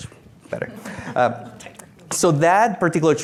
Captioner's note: laughing